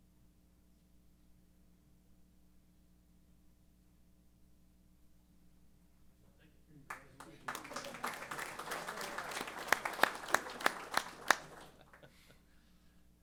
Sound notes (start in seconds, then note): 6.8 applause; 12.5 chuckles